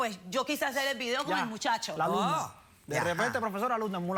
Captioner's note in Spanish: exclamaciones